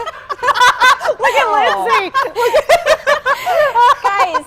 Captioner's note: laughter